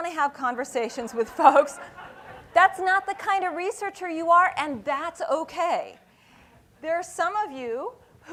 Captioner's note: laughing